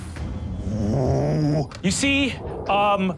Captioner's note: Brennan rumbles